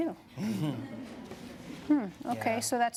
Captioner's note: laughter